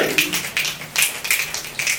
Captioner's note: snaps